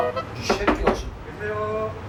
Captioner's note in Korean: 노크 소리